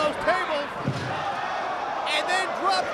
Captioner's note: spectators exclaiming